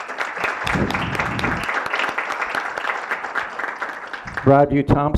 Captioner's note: applause